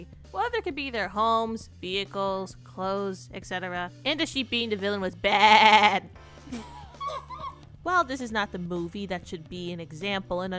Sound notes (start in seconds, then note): 5.2 sheep impression; 6.5 laughs